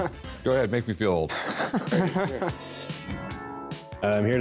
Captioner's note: laughter